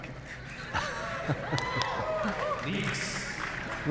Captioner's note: cheering